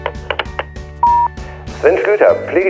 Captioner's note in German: Piep-Ton